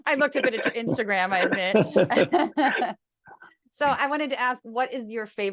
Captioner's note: laugh